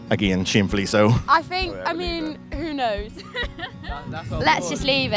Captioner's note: laughs